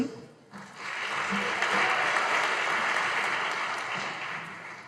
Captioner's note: audience applauding